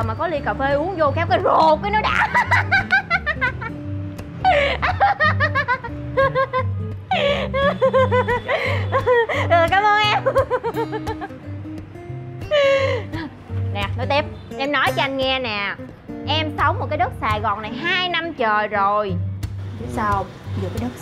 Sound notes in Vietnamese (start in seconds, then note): 4.6 Tiếng cười